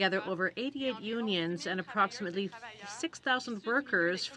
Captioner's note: speaking french